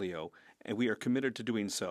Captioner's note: speaking French